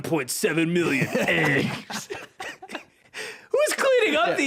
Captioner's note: both laughing